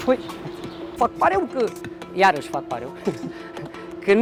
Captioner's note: laughs